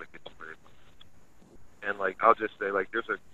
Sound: sound cuts out

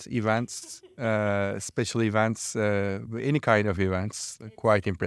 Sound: laughing

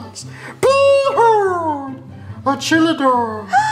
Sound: cheerful yell

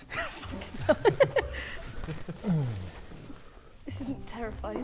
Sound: laughing

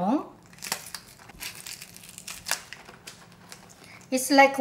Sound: peppers crunching

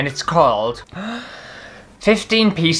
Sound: deep Inhale

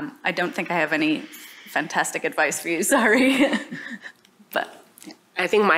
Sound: laughter

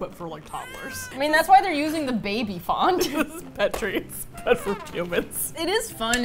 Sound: laughs; laughing; sad trumpet

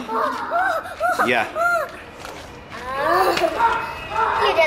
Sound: making excited noises

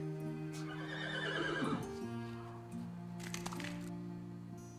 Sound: horse neighs

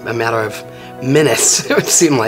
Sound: chuckles

